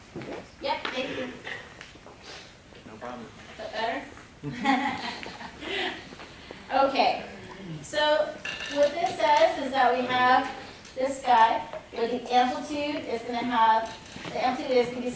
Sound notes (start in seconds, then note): 4.4 laughter